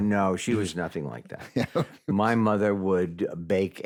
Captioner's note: chuckles